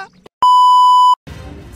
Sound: static beep sound

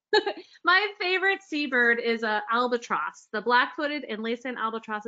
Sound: laughs

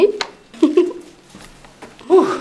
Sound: giggles

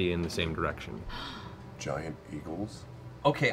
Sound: gasps

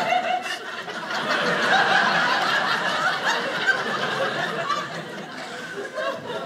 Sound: audience laughing

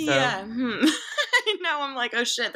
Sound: laughing

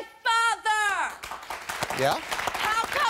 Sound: applause

